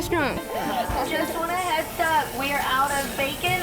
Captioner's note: employee On PA Speaker